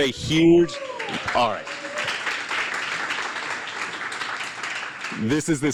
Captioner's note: applause and cheering